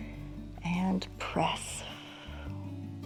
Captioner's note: exhales